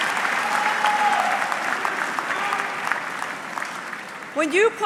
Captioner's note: audience clapping